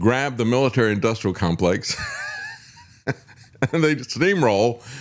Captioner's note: laughs